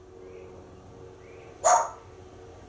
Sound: barking

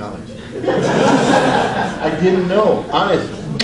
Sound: audience laughs

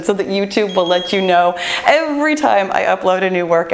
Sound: bell chimes

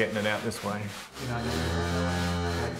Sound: cow moos

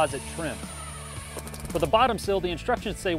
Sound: drilling

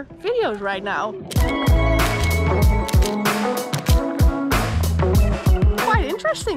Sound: groovy music; camera snapping

